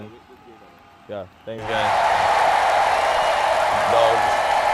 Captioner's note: imaginary crowd cheer